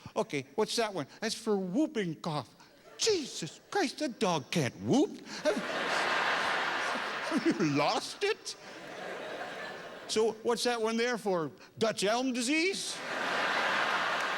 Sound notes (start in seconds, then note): 5.4 laughter